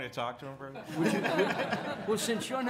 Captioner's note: laughter